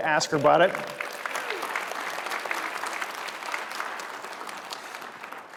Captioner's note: applause